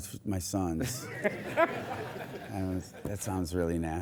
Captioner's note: audience laughs